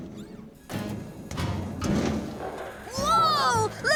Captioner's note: thud! Thud! Thud!